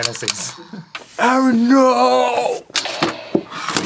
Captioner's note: talking in slow mo